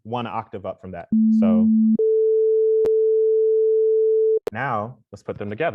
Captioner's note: multiple tones play